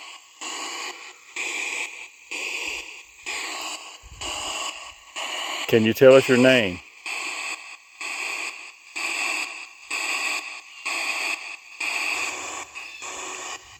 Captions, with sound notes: Can you tell us your name? (ghost box buzzing)